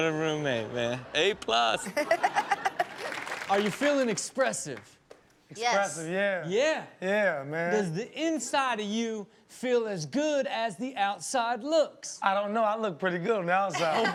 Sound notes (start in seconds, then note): 0.6 Chanel chuckles; 2.2 audience applauds